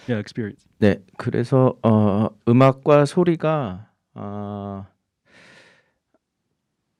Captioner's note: speaking in Korean